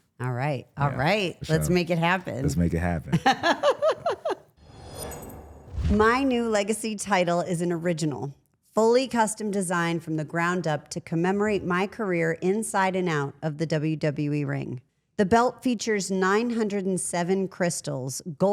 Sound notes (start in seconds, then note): 3.1 laughs; 4.6 logo whooshes